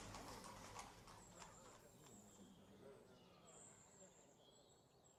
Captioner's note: birds chirping